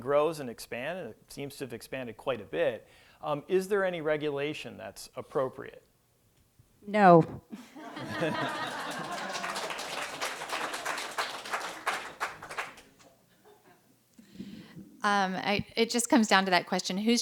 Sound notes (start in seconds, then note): 8.2 applause